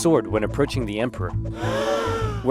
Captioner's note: gasp sounds